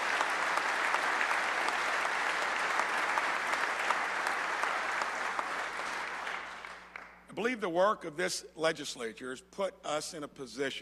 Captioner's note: applause